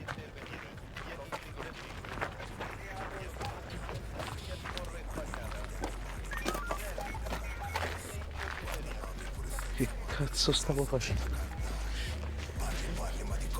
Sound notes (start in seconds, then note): 6.8 policeman talking on radio; 12.9 rap music playing